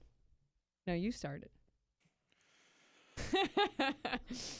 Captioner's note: laughter